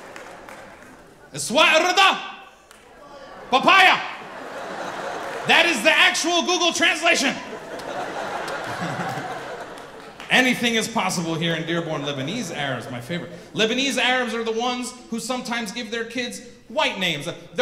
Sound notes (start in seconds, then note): 1.7 speaks in foreign language; 7.1 audience laughing